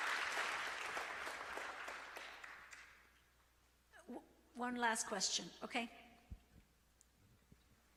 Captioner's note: applause